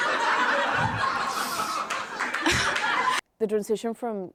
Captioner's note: laughter